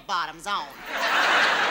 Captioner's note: audience laughs